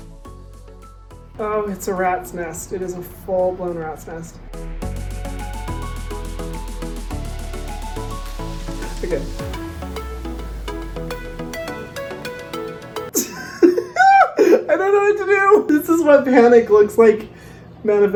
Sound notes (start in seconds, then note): 4.9 dance music continues; 13.2 laughs